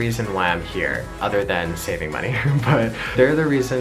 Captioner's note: laughs